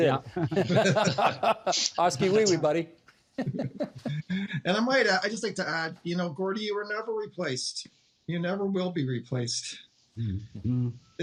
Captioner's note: laughter